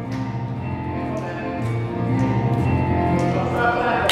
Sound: people clapping

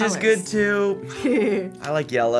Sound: chuckling

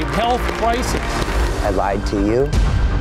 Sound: crowd claps

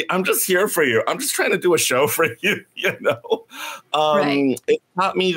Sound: laughs

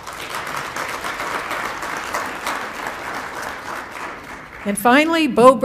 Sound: applause

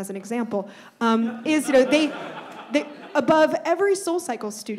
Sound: audience laughs

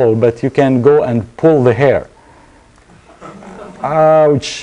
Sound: laughter

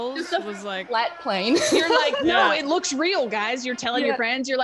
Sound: laugh

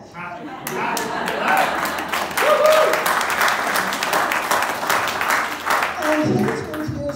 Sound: cheers; applause

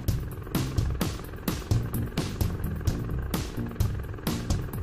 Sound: helicopter whirring

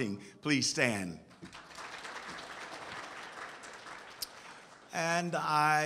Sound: audience applauds

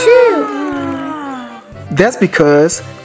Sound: yawns

